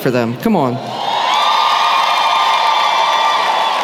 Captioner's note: cheering